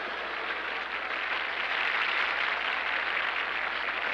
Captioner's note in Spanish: aplausos